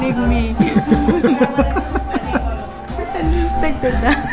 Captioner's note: laughs